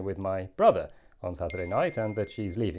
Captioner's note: ping